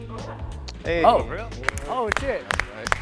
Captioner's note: males clapping; upbeat music